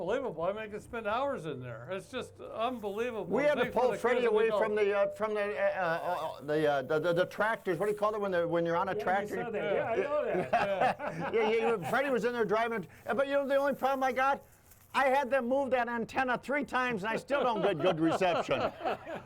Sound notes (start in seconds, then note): 9.2 laughs; 10.9 all laughing